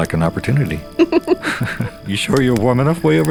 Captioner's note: chuckles; Mila giggles